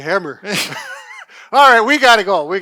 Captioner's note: laughing